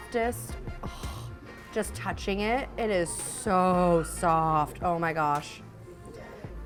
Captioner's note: moans